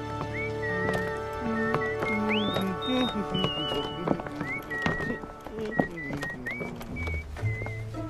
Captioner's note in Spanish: silbidos